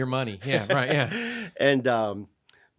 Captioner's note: laughing